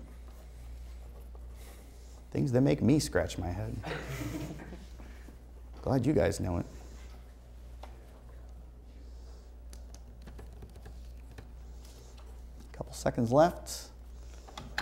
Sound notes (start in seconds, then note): 3.8 laughter